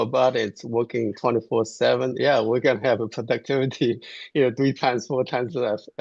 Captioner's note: laughs